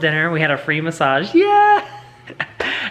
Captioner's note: laughs